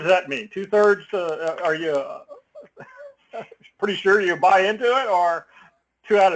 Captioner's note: laugh